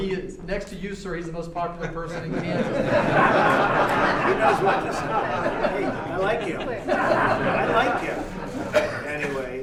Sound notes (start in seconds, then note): 1.8 laughter